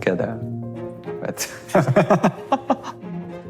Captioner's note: laughs